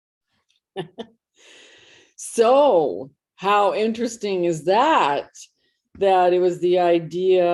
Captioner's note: laughing